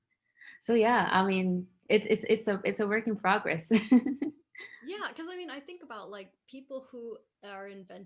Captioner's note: laughing